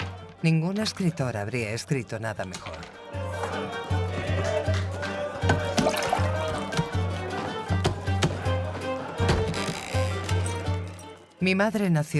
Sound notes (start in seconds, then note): 4.0 people chattering; 5.5 upbeat music continues